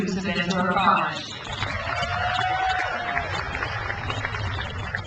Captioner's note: crowd applauds